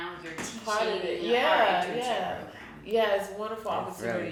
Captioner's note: speaking faintly